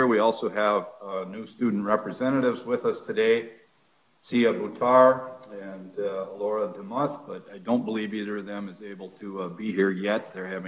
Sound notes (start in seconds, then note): none